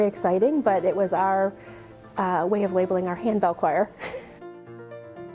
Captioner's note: laughs; upbeat piano music